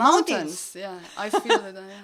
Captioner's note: laugh